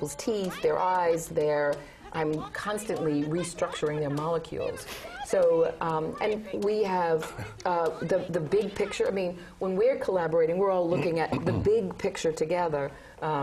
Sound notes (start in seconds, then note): 4.6 laugh